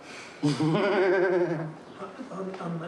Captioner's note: laughs